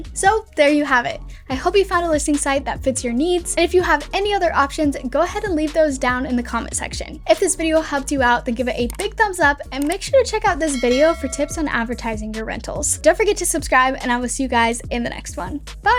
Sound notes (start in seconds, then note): 10.6 bell dinging